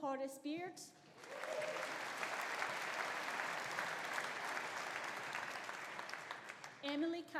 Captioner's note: audience applauding; audience cheering